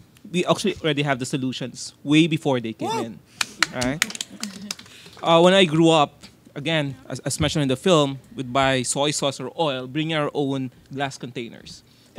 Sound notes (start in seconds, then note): 3.5 audience cheers and claps